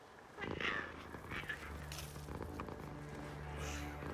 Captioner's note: Giree purring